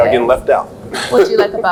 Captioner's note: laughs